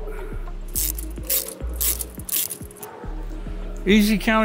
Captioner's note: ratchet rattling